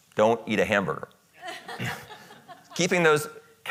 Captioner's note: audience laughing